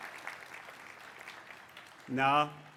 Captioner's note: applause